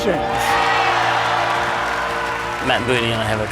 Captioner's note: cheering